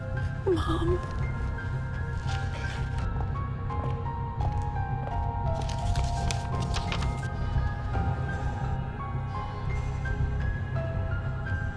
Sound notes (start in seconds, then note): 1.5 tense music; 4.2 footsteps clicking; 8.4 tense music